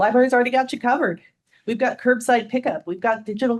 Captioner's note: none